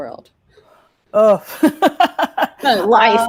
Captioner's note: groans